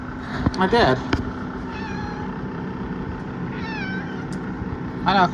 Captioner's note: meows